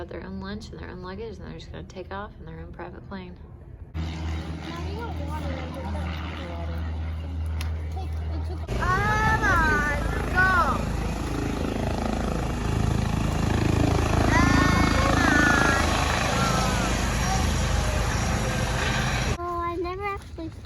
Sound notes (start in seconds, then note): 7.0 sound of planes taking off, waiting on our flight time